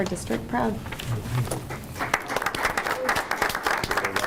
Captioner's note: applause